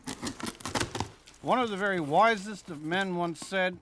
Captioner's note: box opening